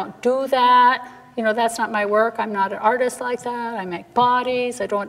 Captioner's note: none